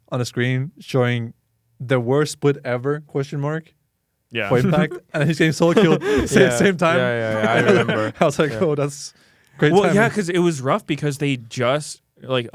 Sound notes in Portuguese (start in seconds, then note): 4.5 risos